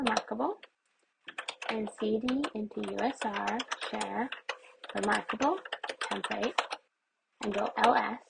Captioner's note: keyboard keys pressed